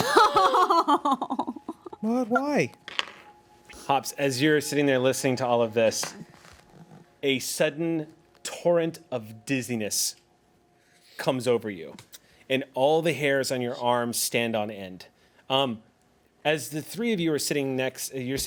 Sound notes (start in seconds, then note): 0.0 woman laughs; 2.8 rolls dice